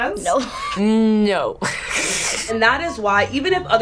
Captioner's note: laughs; snickers